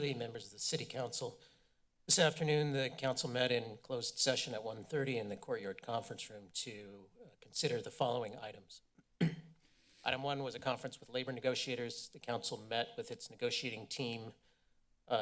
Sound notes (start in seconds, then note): 9.2 clears throat